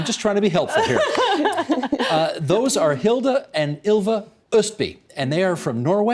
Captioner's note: laughter